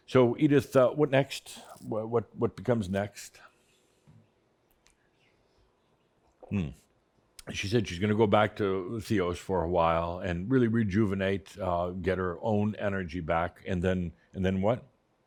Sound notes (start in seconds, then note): 4.0 slight pause